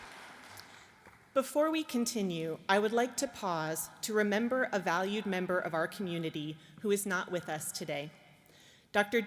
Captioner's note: applause